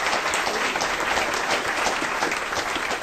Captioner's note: applause